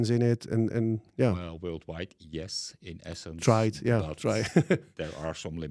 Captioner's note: laughs